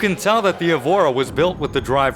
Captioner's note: tires screeching